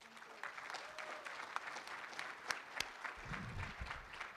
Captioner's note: room applauds